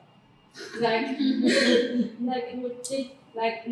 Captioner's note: laughter